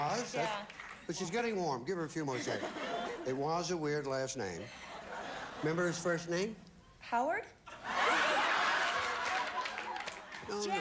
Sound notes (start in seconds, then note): 2.4 audience laughing; 7.7 audience laughing